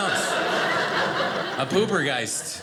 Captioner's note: audience laughing